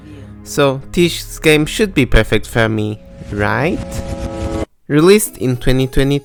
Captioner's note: dread noise